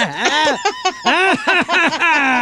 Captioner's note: laughing